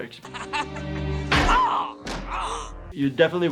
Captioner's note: yelling in pain